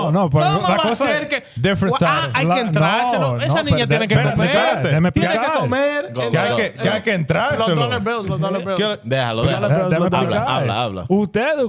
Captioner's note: speaking In Foreign Language